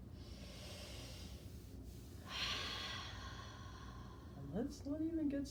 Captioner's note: breathing deeply